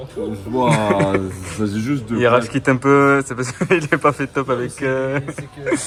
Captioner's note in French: rigole